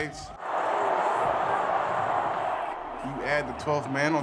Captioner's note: crowd cheering